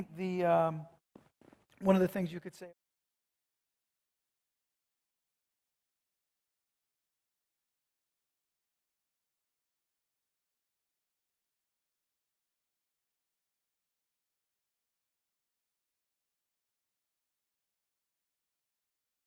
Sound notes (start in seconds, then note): 3.4 audio Cut